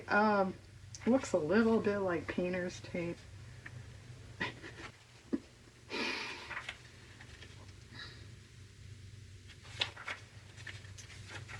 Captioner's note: laughs